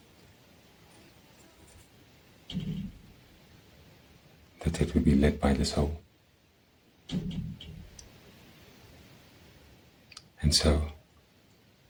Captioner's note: pause